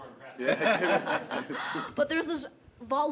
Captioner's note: participants laughing